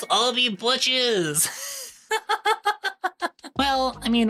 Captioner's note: laughs